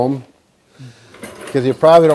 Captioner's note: wheels gliding